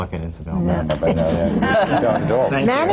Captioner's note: laughter